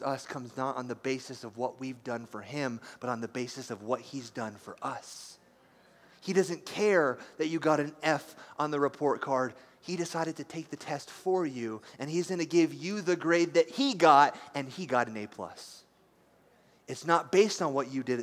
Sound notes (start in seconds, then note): none